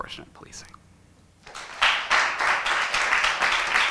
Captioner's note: applause